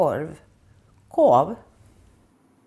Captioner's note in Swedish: med skånskt uttal